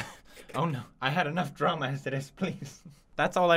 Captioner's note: chuckle